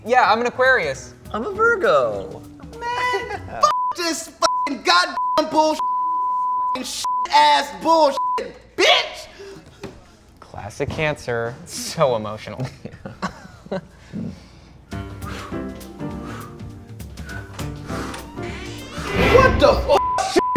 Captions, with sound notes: Yeah, I'm an Aquarius. - I'm a Virgo. - Man! (beep) this (beep) god--(beep) bull--(beep) (beep) (beep) ass bull--(beep) bitch! - Classic cancer, so emotional. - Yeah. (chuckles) - What the (beep)?